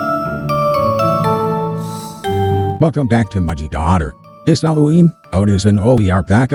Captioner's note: voiceover